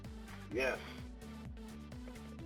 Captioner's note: male Voice